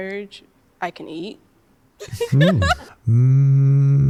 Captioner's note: laughs